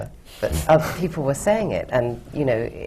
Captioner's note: laughs